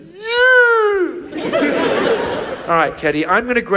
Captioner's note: audience laughs